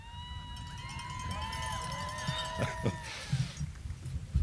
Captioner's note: audience applauding